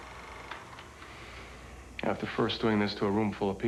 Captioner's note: sighs